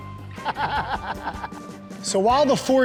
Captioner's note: laughs